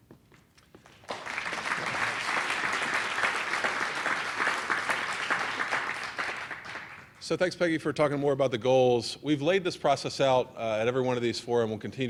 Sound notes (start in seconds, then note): 2.7 applause